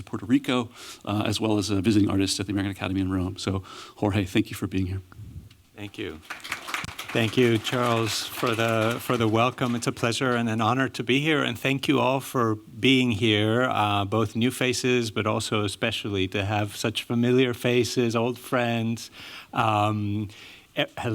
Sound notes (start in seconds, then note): 5.9 applause